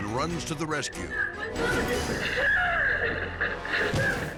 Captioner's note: suspenseful music; clerk screaming